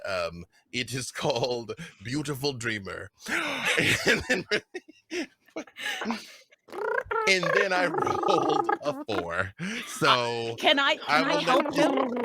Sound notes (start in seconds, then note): 3.3 laughing